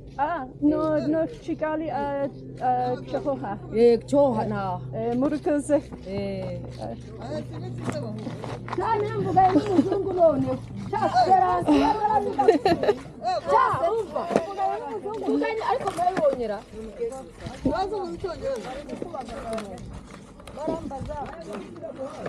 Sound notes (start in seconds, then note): 8.6 lots of lively background chatter; 9.1 laughing